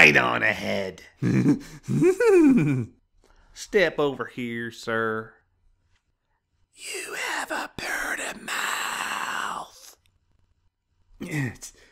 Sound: whispers.. I want to wear your skin like a pair of uneroos

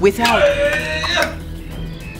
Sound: loud cry

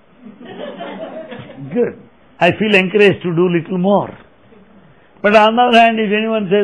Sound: laughter

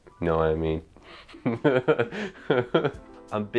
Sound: laughs

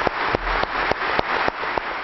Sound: applause

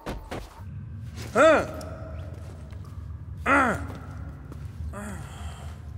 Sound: grunting

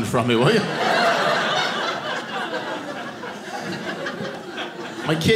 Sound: audience laughing

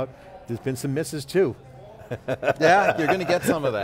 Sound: laughing

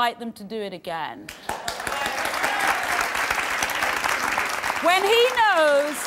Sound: audience applauding

